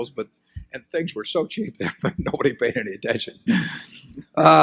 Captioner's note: laughs